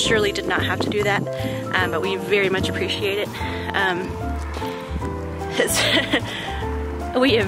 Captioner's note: laughs